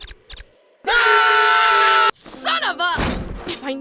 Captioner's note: screaming